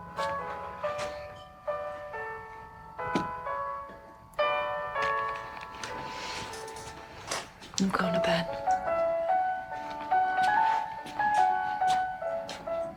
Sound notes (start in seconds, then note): 0.3 piano music; 5.1 pills rattling; 9.4 piano music